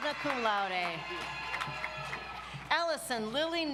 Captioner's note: audience applauds